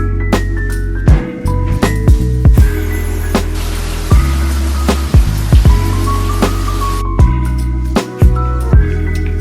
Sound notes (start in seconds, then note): 5.5 water flowing